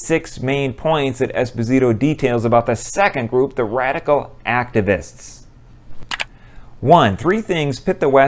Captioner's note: mouse click